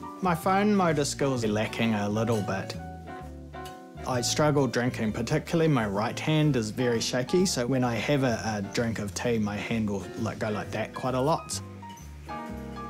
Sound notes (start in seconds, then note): none